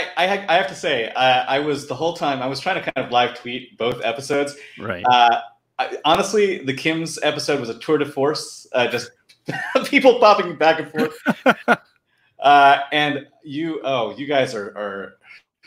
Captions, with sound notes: - I have to say I was the whole time I was trying to kind of live tweet both episodes. - Right. - Honestly, the Kim's episode was a tour de force, just (laughing) people popping back and forth. (Paul laughing) And you, oh you guys are...